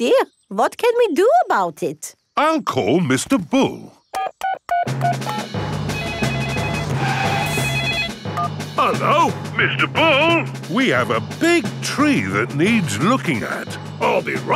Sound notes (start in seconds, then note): 4.2 beeping; 5.8 phone ringing